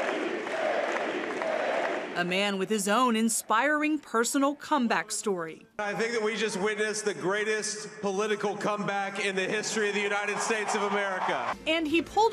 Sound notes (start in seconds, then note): 2.9 crowd